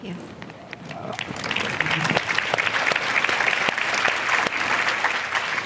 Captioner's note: applause